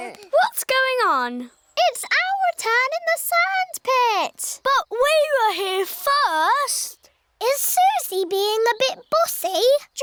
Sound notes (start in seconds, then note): none